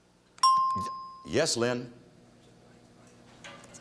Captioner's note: bell chimes